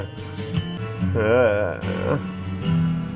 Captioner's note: groans